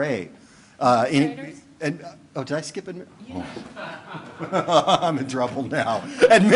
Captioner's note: laughing